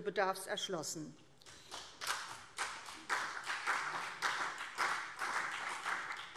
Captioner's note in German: Beifall CDU und BÜNDNIS 90/DIE GRÜNEN